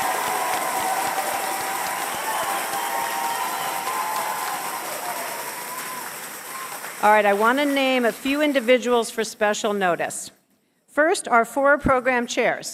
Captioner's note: cheers and applause